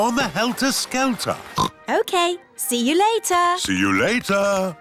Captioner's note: oinks